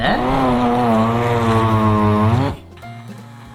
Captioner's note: buzzing noise; melody playing